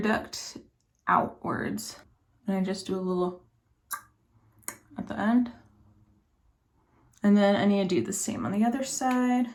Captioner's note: tsk